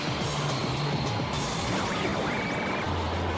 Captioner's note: whooshing